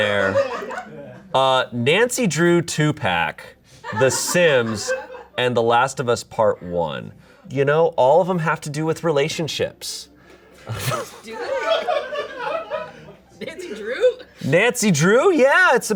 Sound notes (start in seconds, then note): 0.0 audience laughing; 10.6 audience laughing